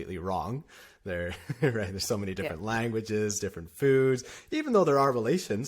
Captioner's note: laughter